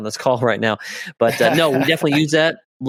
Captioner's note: laughs